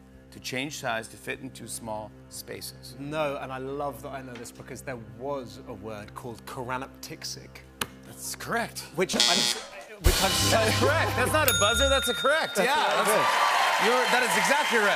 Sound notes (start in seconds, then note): 9.1 buzzer; 11.4 ding